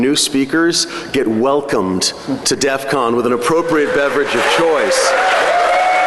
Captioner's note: applause